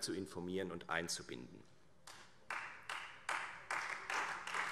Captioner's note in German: Beifall Freie Demokraten und vereinzelt SPD